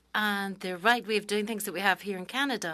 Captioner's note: speaking French